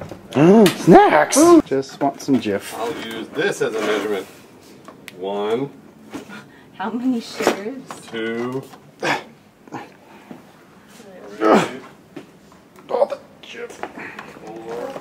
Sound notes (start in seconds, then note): 9.0 makes hard work/excitement noises; 11.4 grunts; 13.0 strained